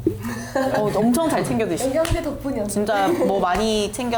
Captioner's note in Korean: 웃음